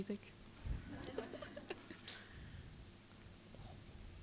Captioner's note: audience laughs